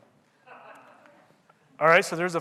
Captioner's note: audience laughing